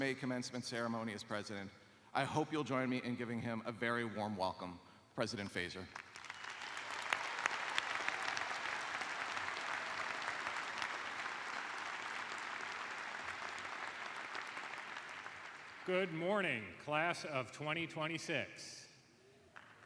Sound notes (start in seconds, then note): 4.2 applause; 18.1 cheers and applause